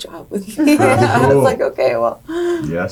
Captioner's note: laughing